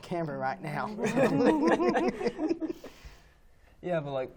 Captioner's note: laughing